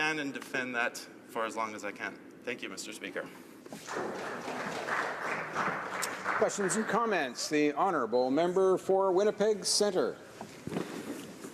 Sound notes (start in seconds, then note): 7.0 some Applause